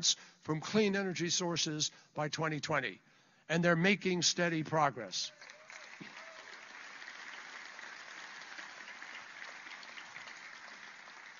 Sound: applause

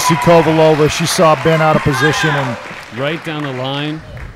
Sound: audience applauding

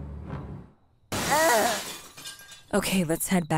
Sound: glass shatters

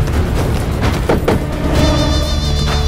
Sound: doors open

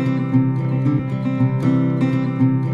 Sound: none

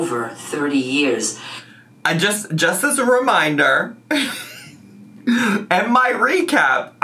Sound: laughs

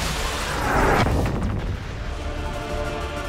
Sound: huge explosion

